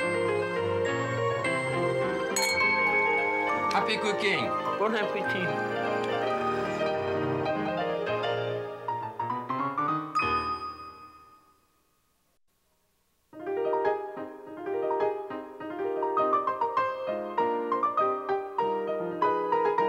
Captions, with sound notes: (crystal rings) - Happy cooking. - Bon appetit.